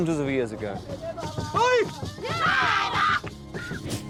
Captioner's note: drums; chanting